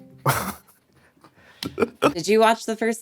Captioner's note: all chuckling